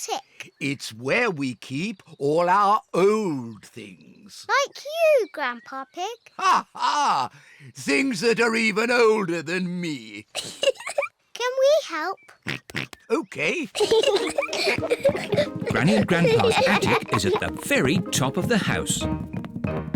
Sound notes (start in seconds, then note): 6.1 laughs; 10.3 giggles; 12.4 oinks; 13.1 peppa and george giggle